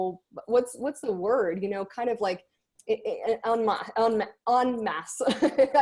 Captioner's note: laughs